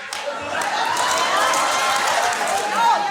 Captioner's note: cheers and applause